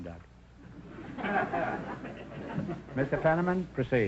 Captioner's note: audience chuckles